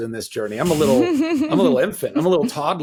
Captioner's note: giggling